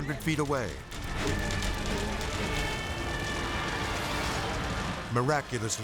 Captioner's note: fire burning; sirens blaring